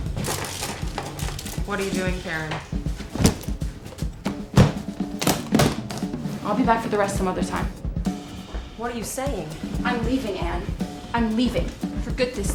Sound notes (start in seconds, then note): 3.0 suitcase lid slams shut, locks